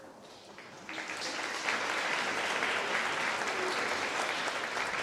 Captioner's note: applause